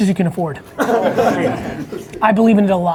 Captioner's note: laughs